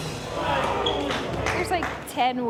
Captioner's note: crowd murmurs